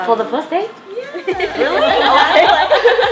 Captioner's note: laughs